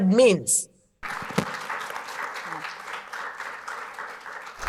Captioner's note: audience clapping